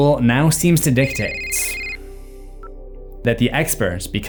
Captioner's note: cell phone rings